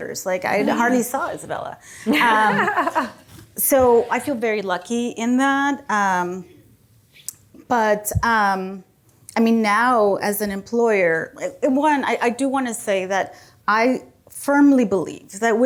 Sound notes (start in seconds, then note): 2.0 group laughing